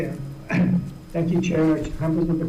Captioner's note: clears throat